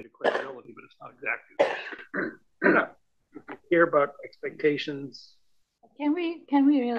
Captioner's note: cough